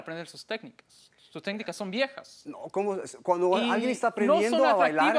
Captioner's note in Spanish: Hablan al unísono